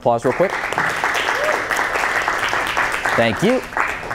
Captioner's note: applause